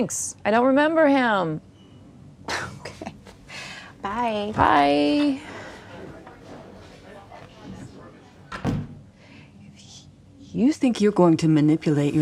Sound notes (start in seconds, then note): 2.4 scoffs; 8.5 door closes